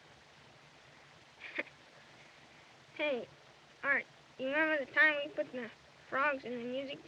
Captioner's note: laughs